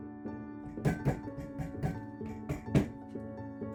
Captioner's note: gentle music; mallet thumping; gentle music